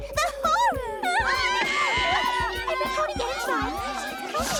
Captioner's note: all scream